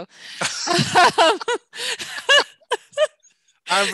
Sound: both laugh

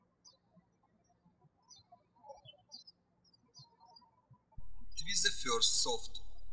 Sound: birds chirping

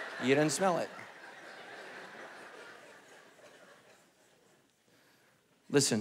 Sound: congregation laughing

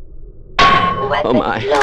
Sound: buzz

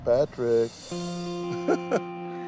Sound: laughs

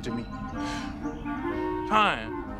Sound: sighs

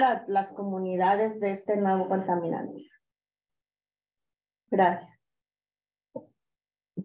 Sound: continues speaking in Spanish

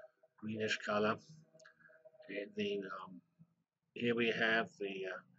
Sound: pause

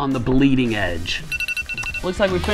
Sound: alarm rings

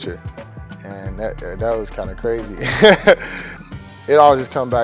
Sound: laughs

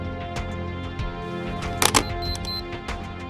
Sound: shutter clicks

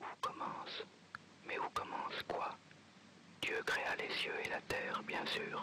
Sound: narrates in foreign language

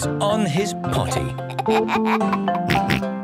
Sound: giggles, snorts

